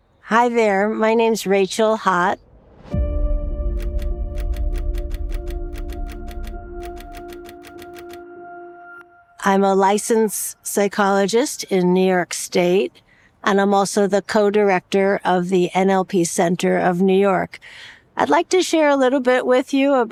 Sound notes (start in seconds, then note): 4.0 typewriter clicking